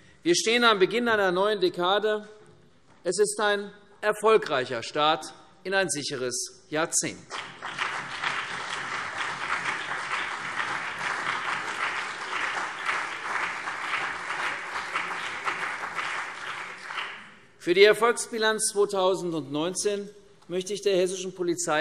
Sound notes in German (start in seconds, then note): 7.3 Beifall CDU und BÜNDNIS 90/DIE GRÜNEN